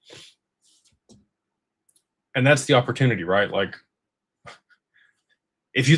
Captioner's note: snorts